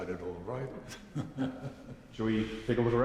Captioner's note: laughing